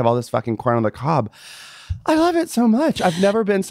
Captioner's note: exhaling